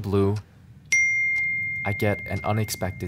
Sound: notification dings; clock ticking

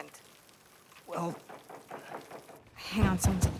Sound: knocking

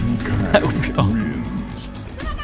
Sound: imitates punch SFX

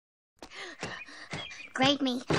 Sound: heavy breathing

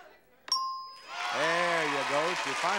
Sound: bell dings

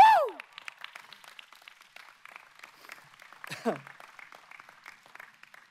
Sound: excited yelling; audience applauding

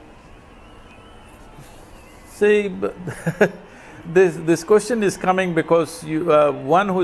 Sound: laughs

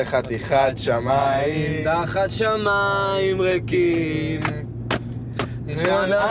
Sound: clapping to rhythm

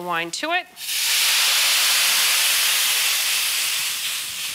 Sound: sizzling

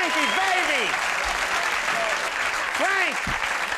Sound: audience applauding

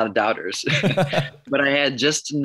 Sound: laughs

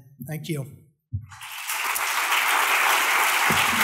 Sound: audience applauding

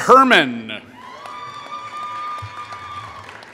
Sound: applause

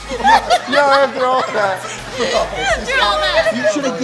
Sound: laughter

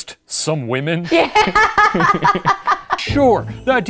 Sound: laughing

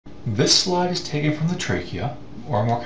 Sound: voiceover

